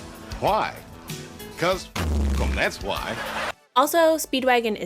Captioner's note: buzz sound